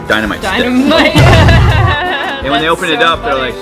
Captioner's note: laughing